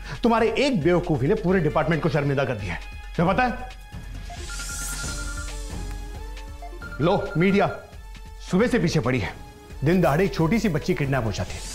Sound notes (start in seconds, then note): 4.3 Phone ringing